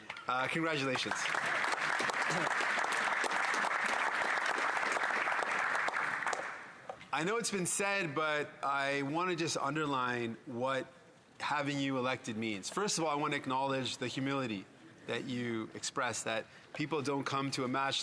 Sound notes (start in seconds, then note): 5.0 applause